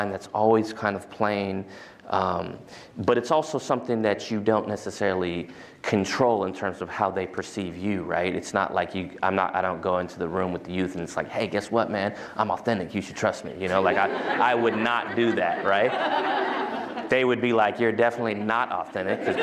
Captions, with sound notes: That's always kind of playing. But it's also something that you don't necessarily control in terms of how they perceive you. I don't go into the room with the youth. And it's like, hey, guess what, man? I'm authentic. You should trust me. [LAUGHTER] I would not do that. They would be like, you're definitely not authentic.